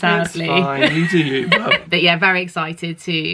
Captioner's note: laughing